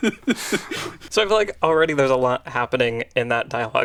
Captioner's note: laughs